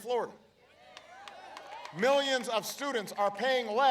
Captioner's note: applause